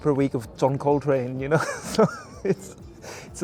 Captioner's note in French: rire